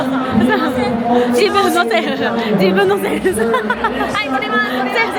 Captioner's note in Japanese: 笑い